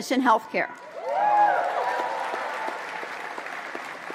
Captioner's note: applause